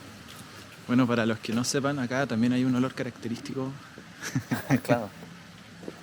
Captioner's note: laughs